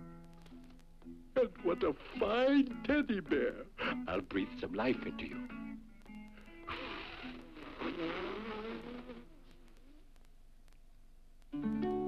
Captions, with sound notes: And what a fine teddy bear. I'll breathe some life into you. (blows) (peaceful guitar music)